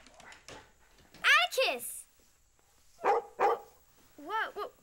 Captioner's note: barking